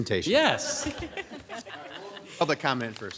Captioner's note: group laughs